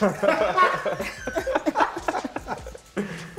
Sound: laughter

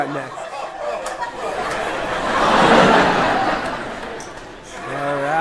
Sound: people laughing

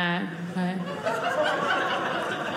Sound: audience laughing

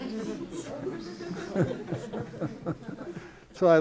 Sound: laughter

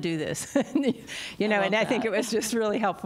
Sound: laughter

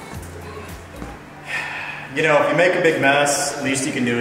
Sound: sighs

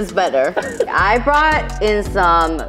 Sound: Ben Baller laughing

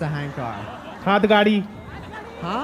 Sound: non-english speech

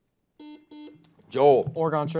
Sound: buzzer buzzes

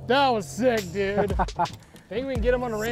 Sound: laughs

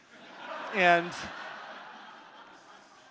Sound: audience laughing

